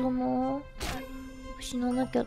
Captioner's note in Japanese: 騎士が棘に刺さる音